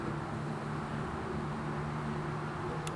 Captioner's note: vehicles whooshing